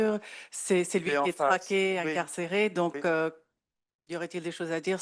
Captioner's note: speaking French